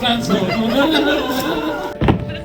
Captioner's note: laughter